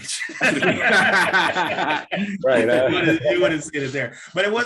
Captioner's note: all laughing